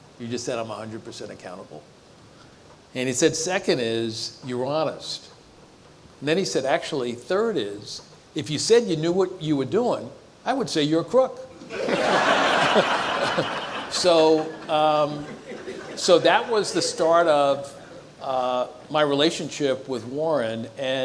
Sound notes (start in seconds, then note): 11.6 audience laughs